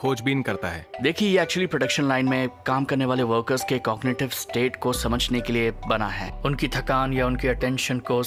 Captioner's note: speaking mandarin